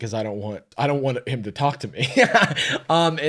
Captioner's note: laughs